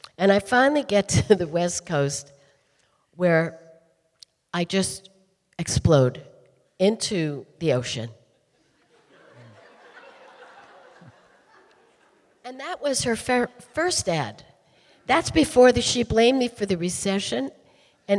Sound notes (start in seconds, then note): 8.5 audience laughing